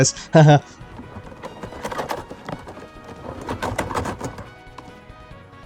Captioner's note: aggresive keyboard typing